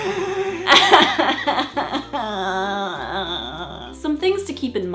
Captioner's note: crying